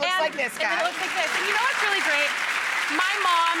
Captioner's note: audience applauds